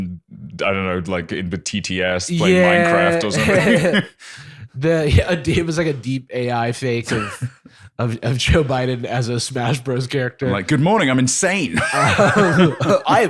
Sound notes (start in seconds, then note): 5.1 laughs; 11.7 laughter